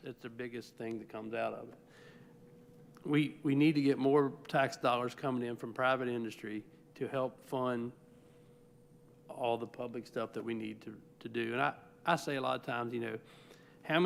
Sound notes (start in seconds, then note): none